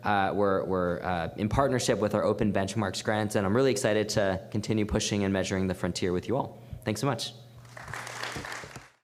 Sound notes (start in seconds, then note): 7.6 applause